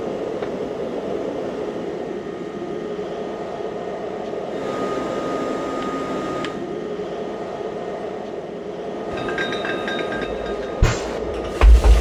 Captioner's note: machinery sounds